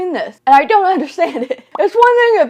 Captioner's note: laughs